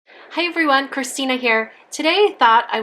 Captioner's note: voiceover